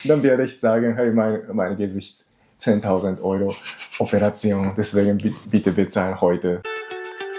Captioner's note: laughs